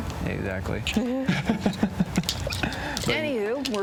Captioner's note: both laugh